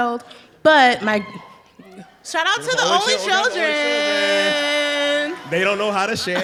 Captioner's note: cheering